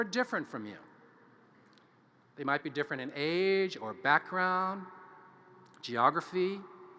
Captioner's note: none